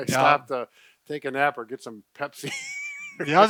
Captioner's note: laughing